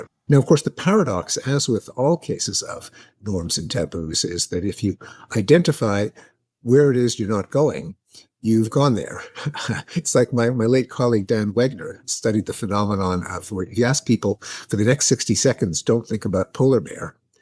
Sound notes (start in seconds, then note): 9.2 Steven chuckling